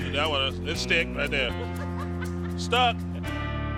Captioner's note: laughs